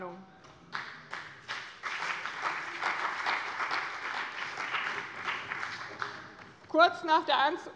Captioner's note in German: Beifall bei dem BÜNDNIS 90/DIE GRÜNEN und der CDU